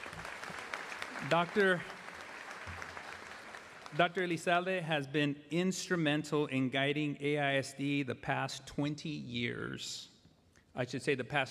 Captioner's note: applause